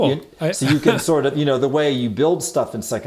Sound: laughter

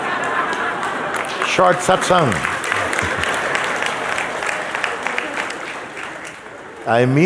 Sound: applause

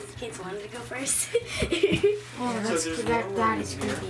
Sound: laughs

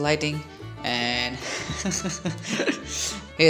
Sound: nervous Laughter

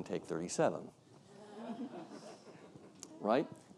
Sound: audience laughs

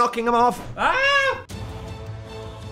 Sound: intense music; screams

